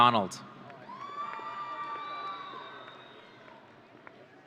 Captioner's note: audience cheering